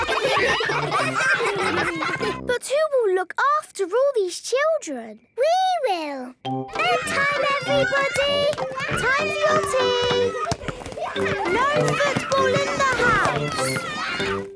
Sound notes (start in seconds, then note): 0.0 ruckus; 6.7 children playing